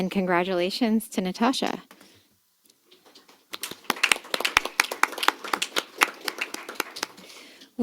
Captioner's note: applause